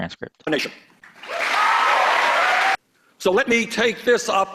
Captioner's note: cheers and applause